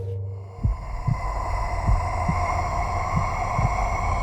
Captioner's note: eerie noise